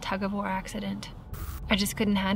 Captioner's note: static crackles